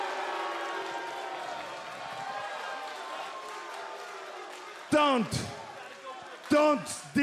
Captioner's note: cheers and boos